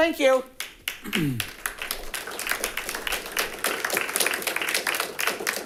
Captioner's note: audience applauding